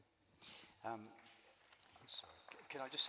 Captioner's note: applause